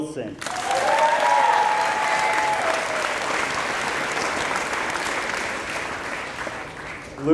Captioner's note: applause